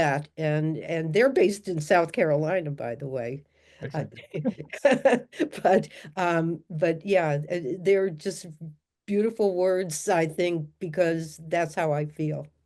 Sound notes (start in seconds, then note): 4.1 laughter